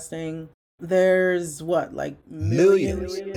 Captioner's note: voice echoes